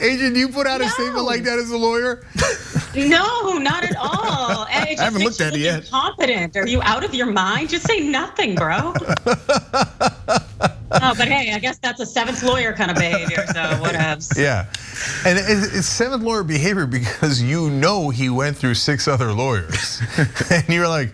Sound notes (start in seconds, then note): 0.0 laugh; 9.0 laugh